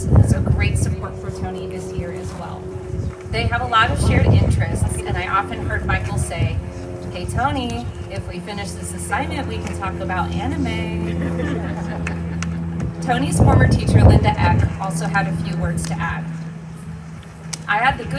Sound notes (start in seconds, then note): 10.5 laughter